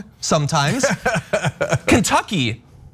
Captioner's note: laugh